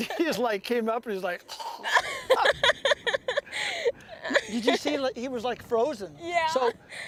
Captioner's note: laughter; funnu noise